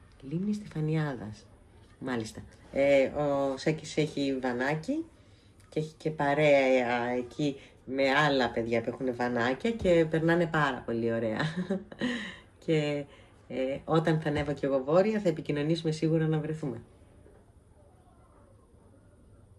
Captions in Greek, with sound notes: λίμνη στεφανιάδας. Μάλιστα. Ε, ο Σάκης έχει βανάκι. Και έχει και παρέα εκεί με άλλα παιδιά που έχουνε βανάκια και περνάνε πάρα πολύ ωραία. [γέλια] Και ε όταν θα ανέβω και εγώ βόρεια θα επικοινωνήσουμε σίγουρα να βρεθούμε.